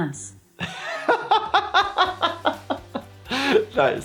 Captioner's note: laughing